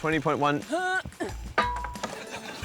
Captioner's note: grunts